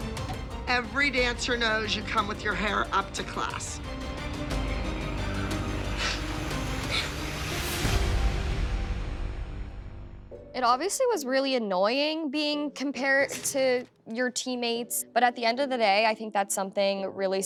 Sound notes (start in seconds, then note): 5.3 sniffling